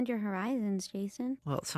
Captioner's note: none